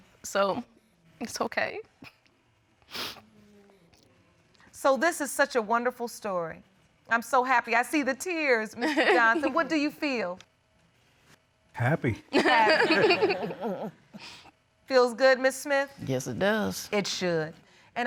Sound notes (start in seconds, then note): 2.9 sobbing; 12.4 laughs